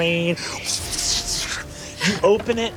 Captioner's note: mimics wind blowing